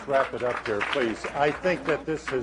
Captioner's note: applause